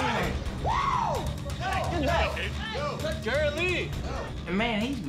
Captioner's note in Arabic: صراخ